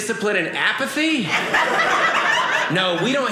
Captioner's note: audience laughing